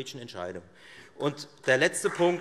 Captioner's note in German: Beifall Freie Demokraten